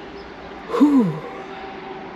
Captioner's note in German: seufzt